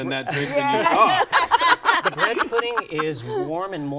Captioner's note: laughter